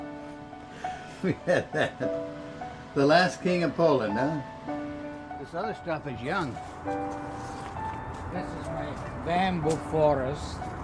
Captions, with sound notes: (Chuckling) The last king of Poland, huh. This other stuff is young. This is my bamboo forest.